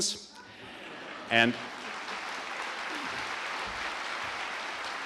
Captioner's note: audience applauding